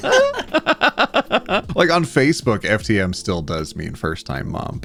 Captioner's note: laughing